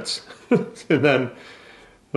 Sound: laughs

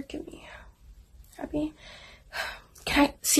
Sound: exhales

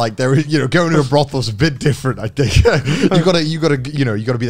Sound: laughing

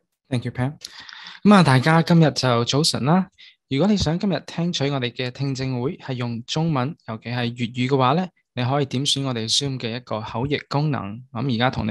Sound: cantonese

